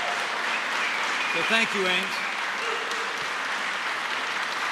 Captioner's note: applause